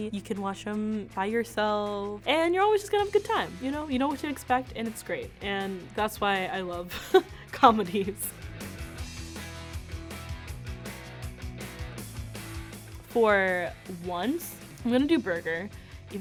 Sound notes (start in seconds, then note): 7.2 laughs; 8.5 soft jazzy music